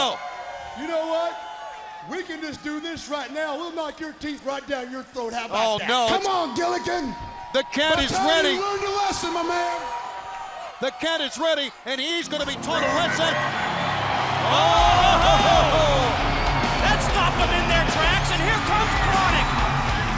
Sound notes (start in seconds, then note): 15.7 crowd cheering